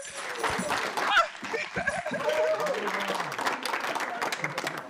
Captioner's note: laughs; audience applauding